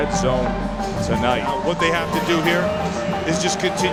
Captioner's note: voiceover